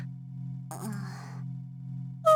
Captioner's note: groan